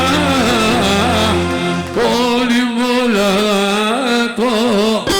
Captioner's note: applause